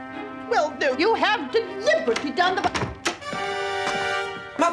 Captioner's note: door opening